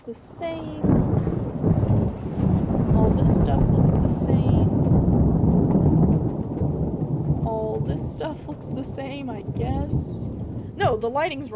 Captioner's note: thunder